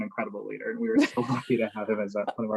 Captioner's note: laugh